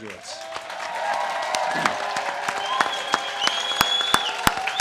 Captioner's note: audience cheers and claps